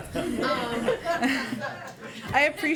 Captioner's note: laughter